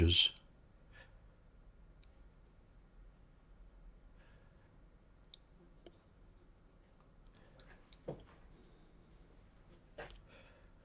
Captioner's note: silence